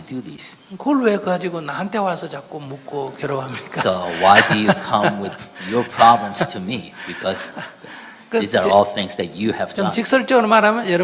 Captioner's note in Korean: 스님과 청중 웃음